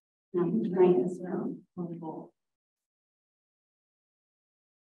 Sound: speaking faintly

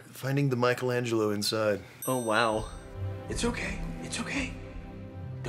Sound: none

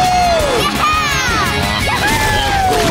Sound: smashing taco

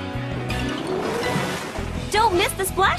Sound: water splashing

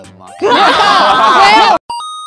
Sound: chuckles XD

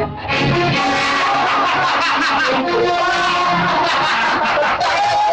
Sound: laughs

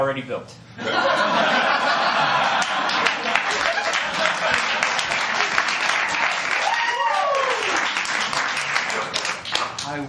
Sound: laughter & applause

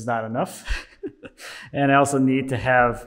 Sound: laughing

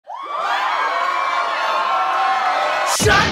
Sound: cheering

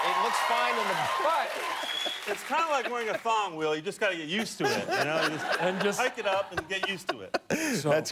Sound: cheers and applause

